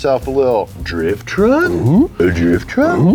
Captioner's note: awes